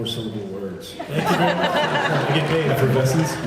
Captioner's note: laughs